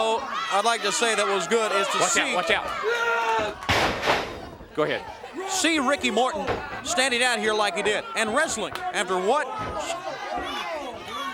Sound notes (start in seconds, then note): 3.9 crowd chatter